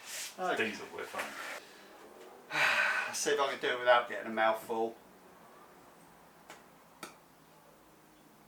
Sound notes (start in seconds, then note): 2.5 deep sigh